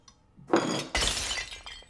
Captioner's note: plate shatters